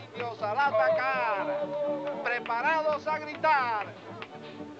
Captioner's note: men howl